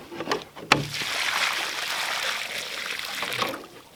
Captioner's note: water splashing